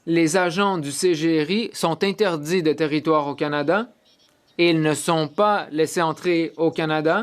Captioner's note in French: voix de l'interprète